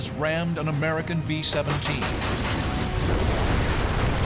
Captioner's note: gunfire